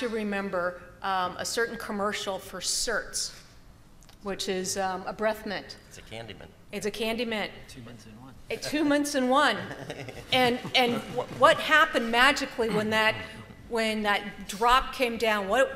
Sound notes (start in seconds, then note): 9.6 chuckling